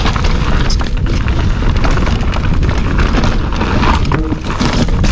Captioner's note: bike tires on trail